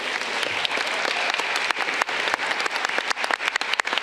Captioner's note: audience clapping